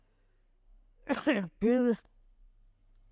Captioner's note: coughs